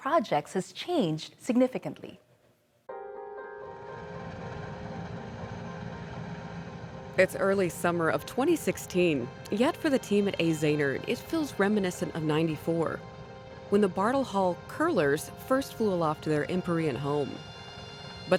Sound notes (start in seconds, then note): 2.6 piano music; 3.4 helicopter rotors whirring